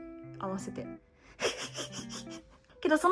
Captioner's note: laughs